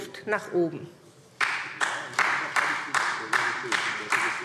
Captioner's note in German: Beifall SPD